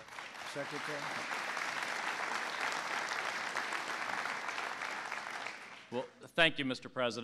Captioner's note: applause